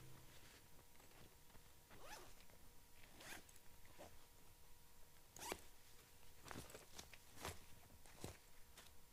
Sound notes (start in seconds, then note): 1.9 zipper zips